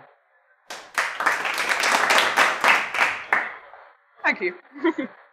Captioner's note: crowd clapping